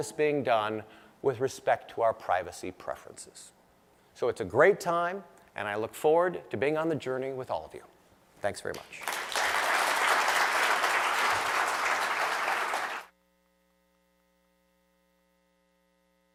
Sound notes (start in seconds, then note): 8.7 applause